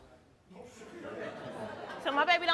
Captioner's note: audience members laughing